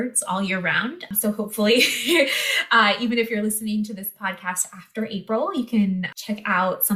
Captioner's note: chuckle